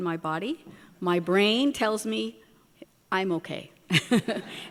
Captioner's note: chuckles. Audience laughter